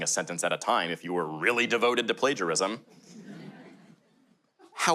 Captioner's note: light audience laughter